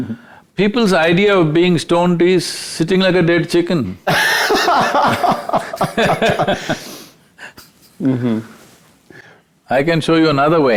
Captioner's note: laughs